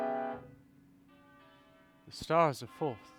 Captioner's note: bells